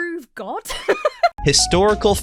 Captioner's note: laughs